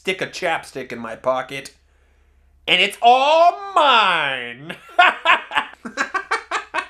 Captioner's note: evil laugh